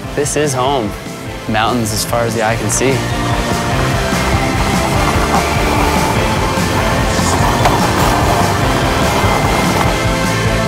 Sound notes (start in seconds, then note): 5.3 bike tires grinding on rocks